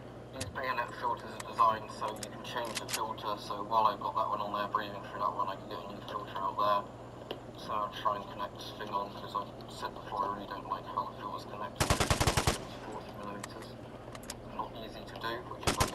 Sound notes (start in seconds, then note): 10.8 sprays